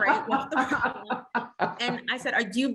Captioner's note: laughs